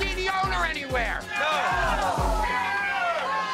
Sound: crowd

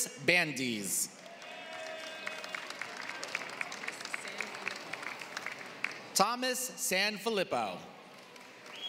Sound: applause; applause

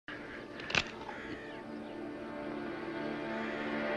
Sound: gun cocks

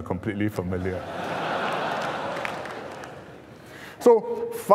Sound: laughter

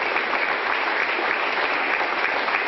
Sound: applause

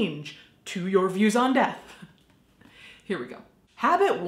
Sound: chuckles

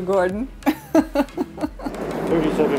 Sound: laughs

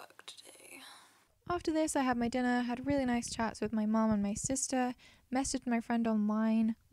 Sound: voiceover

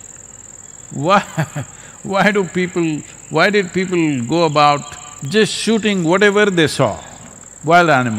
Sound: laughs

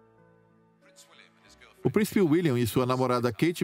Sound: voiceover

